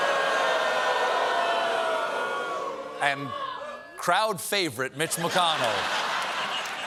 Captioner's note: audience booing